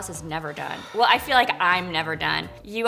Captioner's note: Casey sighs heavily